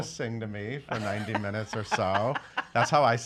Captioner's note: laughing